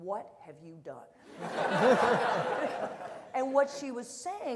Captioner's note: audience laughter